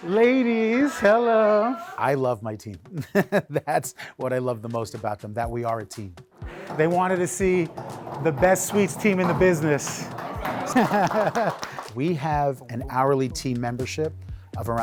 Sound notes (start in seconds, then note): 2.9 laughing; 11.1 team applauding